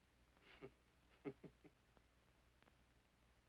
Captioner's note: chuckling